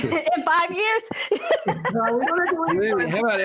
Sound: laughter

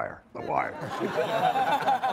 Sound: all laughing

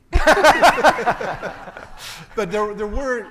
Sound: everyone laughing

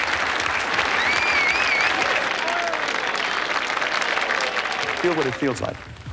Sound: applause and whistling

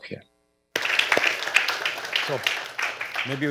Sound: applause

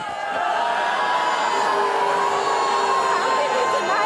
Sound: crowd jeers

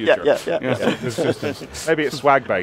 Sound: chuckles

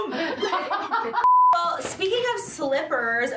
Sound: screen beep

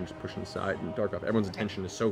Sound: none

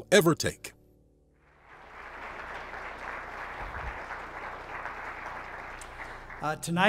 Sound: applause

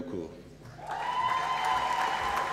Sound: applause

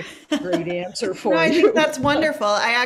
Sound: laughs

